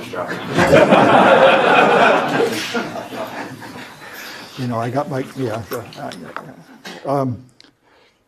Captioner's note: laugh